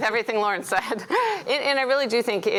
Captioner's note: laughs